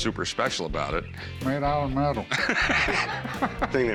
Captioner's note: laughs